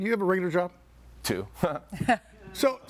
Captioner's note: laughs